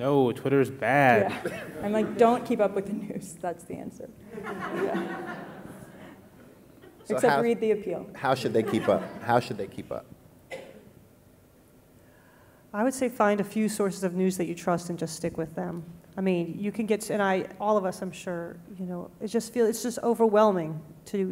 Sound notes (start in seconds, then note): 4.2 audience laughing